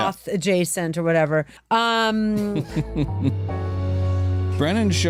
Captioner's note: laughter